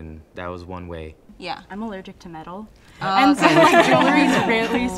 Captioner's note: group laughs